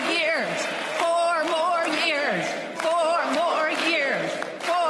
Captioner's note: applause